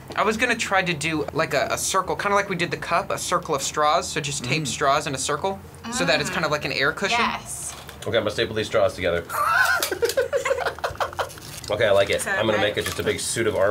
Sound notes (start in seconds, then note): 9.3 laughing